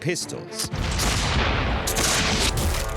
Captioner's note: pistol fires